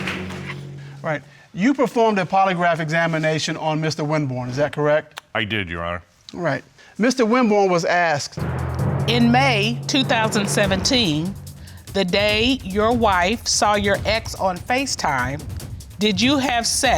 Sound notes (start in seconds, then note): none